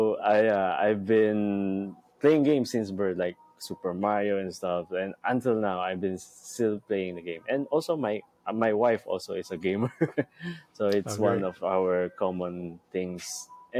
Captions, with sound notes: So I've been playing games since birth, like "Super Mario" and stuff. And until now, I've been still playing the game. And also, my wife also is a gamer. (laughs) So it's one of our common things.